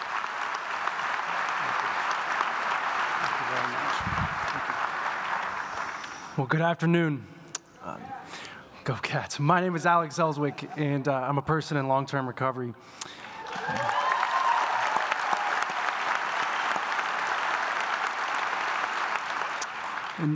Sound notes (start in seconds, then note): 0.0 applause; 9.0 laughs; 13.0 applause